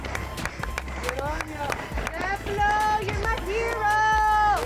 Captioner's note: clapping